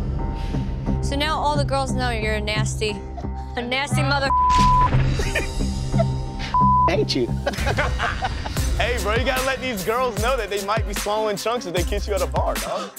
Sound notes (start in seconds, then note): 4.2 beep; 7.3 laughs